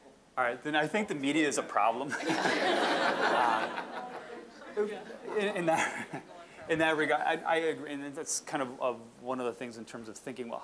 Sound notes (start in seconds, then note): 2.1 audience laughing